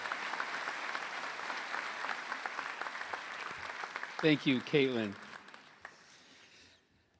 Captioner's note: applause